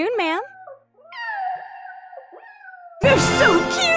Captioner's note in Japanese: 猫の鳴き声